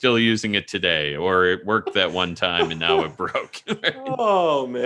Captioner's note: laughing